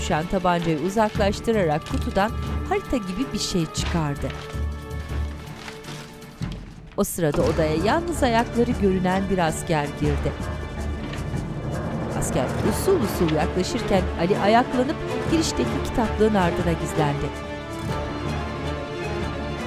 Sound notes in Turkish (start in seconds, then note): 3.7 Kâğıt hışırtısı sesi; 7.2 Kapı açılma sesi; 10.9 Müzik - Gerilim